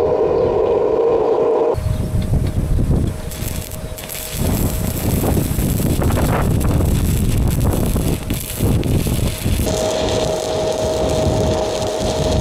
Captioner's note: wind blowing